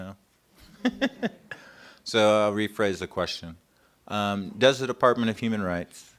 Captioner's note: laughter